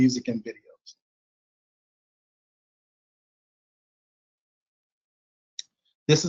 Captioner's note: silence